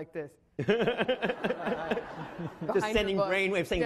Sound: laughing

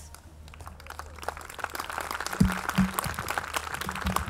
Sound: audience clapping

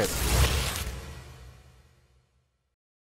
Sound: paper rips

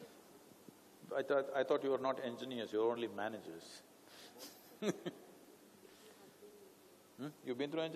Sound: laughs

